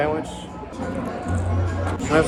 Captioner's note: cromch